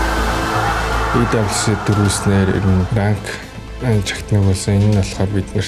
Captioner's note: crowd cheering; in Mongolian